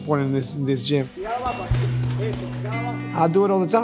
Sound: speaking Spanish

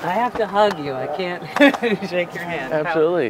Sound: chuckling

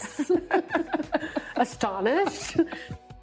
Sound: laughs

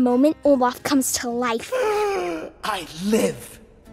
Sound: Olaf gasps

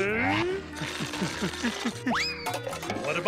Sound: grunting

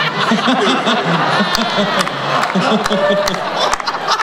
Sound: laughter

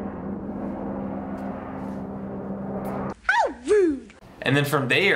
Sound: airplane soaring

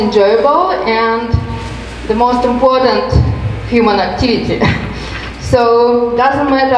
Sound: chuckles

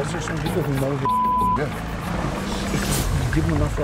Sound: beep

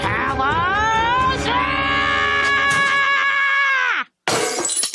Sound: screaming

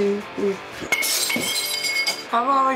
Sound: breaking glass

